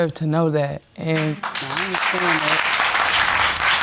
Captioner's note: audience clapping